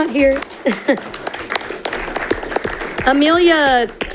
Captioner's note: audience clapping